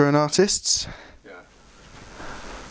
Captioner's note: quiet